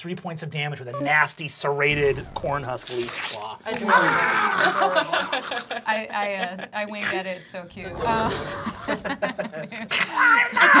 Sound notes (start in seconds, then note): 1.9 slashing; 7.8 snarling